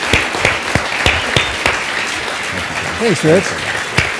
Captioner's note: audience clapping